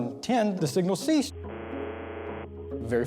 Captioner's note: faint buzzer